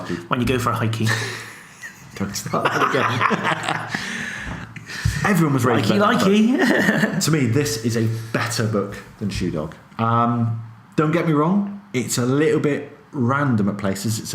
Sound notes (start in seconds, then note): 1.1 laughs